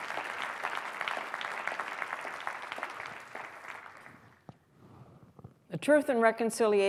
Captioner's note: applause